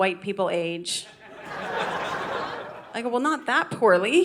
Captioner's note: audience laughing